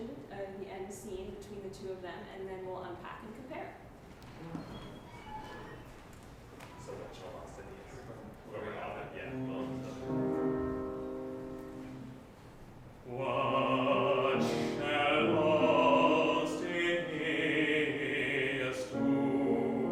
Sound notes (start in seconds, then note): 5.8 speaking softly; 9.8 piano playing